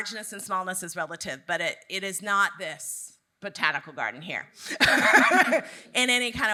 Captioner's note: laughs